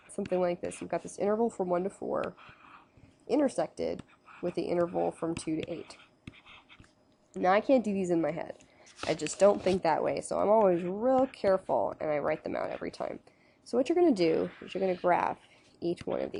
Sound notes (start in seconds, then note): 3.9 pen scribbling; 8.9 rubbing paper